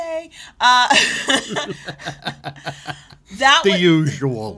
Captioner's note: laughter